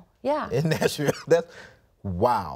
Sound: chuckles

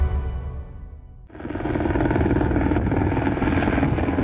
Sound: helicopter blades whirring

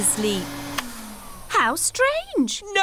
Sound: whirring stops

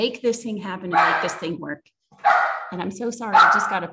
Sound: puppy barking

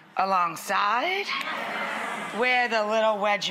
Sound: audience reacts excitedly

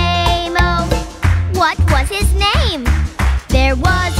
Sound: clap

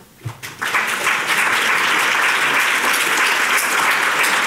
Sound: audience applauding

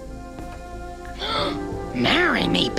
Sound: gasp

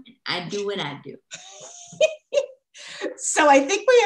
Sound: laughter

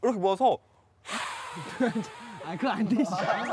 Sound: blowing

